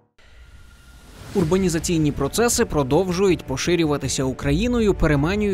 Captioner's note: voiceover